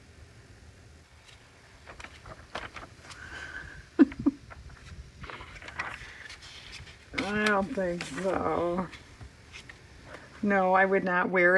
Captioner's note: laughs